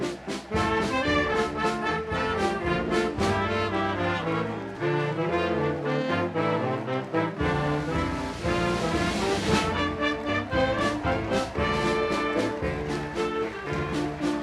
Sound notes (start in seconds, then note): 6.5 audience applauding continues; 10.5 upbeat band music continues